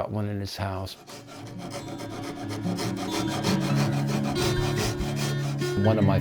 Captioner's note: sandpaper scrubbing